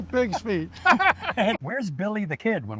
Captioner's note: laughter